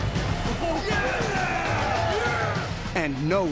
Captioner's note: cheering